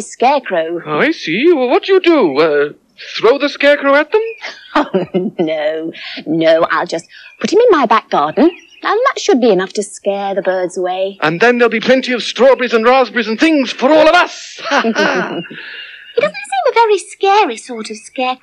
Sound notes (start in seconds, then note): 4.3 giggling